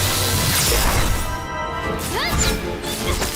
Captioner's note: electricity crackles; explosion